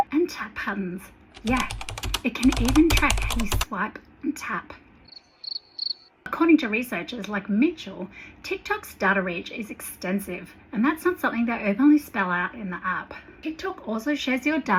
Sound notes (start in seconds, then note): 5.0 cricket sounds